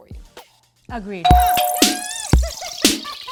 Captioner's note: door bell rings